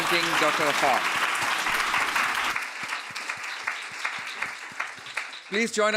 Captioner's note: applause